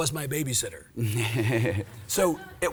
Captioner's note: laughs